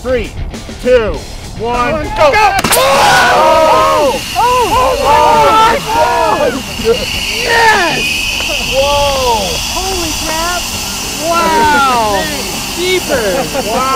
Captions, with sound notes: Three, two, one, go! (all shouting) (rocket hissing) - Holy crap, wow! - Jeepers!